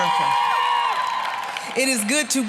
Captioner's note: applause, cheering